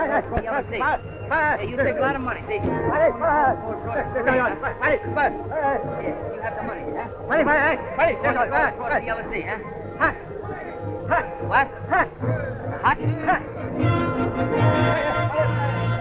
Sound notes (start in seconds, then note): 10.0 speaking japanese; 13.8 resolving music